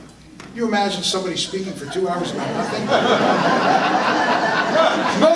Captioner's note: audience laughter